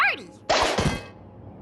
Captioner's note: pop